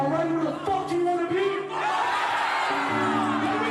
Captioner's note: crowd shouts